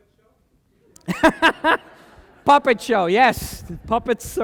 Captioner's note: laughter